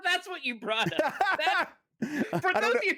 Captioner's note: laughter